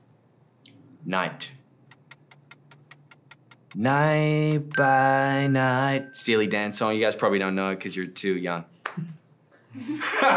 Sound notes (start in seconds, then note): 1.9 ticking